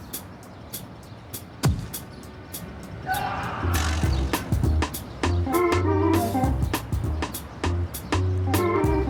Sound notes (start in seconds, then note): 3.0 Randy screams; 3.8 lighthearted music